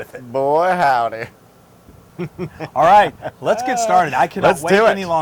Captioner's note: laugh